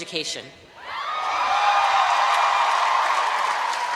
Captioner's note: cheering